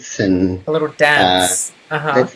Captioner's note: sarcastic